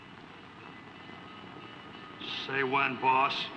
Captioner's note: train bell ringing